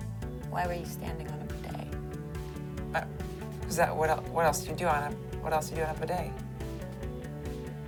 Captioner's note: none